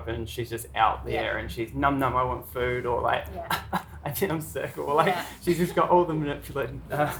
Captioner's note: cough cough